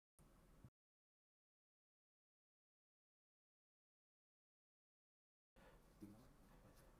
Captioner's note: silence